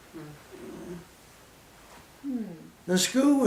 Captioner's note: silence